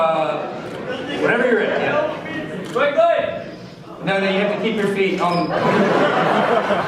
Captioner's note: crowd laughs; laughing crowd